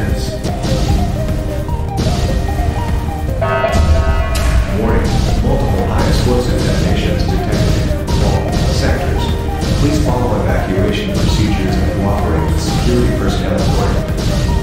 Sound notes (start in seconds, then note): 2.3 announcement Chime